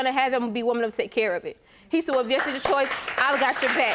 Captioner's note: applause